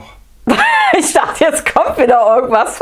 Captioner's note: laughs